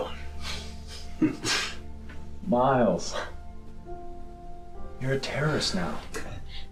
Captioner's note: chuckles